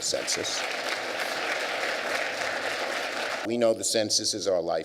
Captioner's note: applause